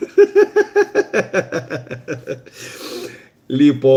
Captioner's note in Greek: γέλια